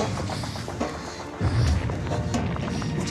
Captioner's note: panting